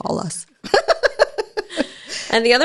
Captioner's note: laughs